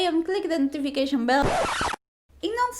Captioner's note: record scratch noise